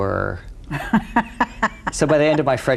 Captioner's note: laughs